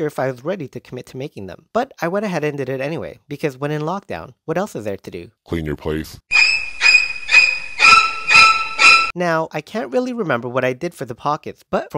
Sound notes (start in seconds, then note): 5.3 deep voice man; 6.3 scary violin